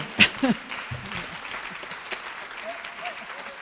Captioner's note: applause